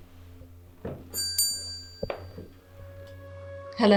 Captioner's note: bell rings